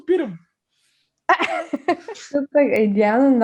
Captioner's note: laughs